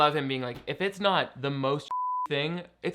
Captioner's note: beep